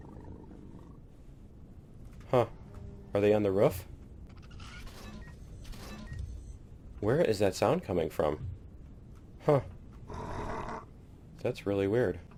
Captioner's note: aliens growling